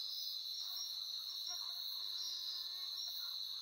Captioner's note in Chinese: 蚊子的聲音